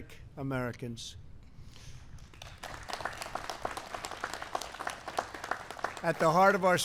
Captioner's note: applause